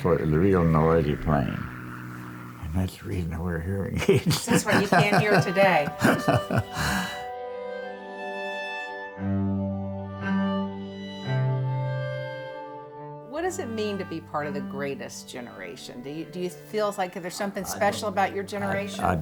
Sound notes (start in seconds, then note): 3.8 laughs; 7.1 laughing; 8.2 string orchestra music